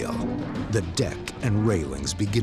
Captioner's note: creaking